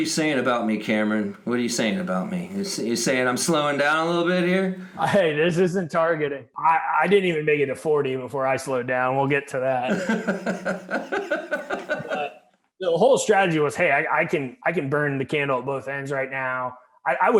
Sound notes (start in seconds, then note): 9.8 laughing